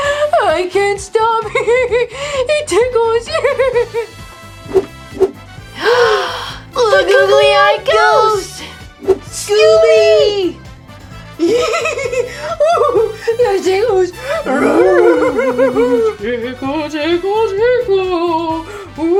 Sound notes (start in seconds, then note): 5.6 gasps